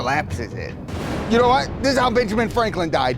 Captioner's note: lightning thunders faintly